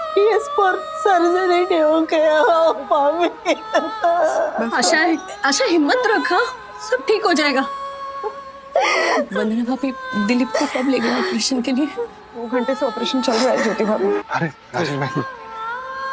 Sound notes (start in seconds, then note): 2.3 crying; 8.2 sobbing